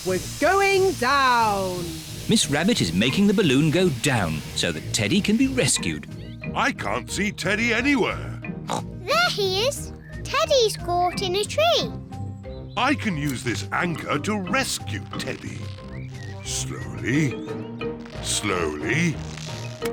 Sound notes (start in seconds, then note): 8.6 oinks